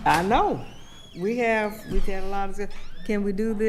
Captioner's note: door creaking